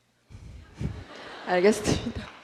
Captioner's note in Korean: 청중 웃음